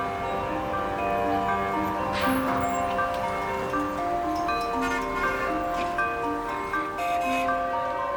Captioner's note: sounds of bells, car horns and vehicles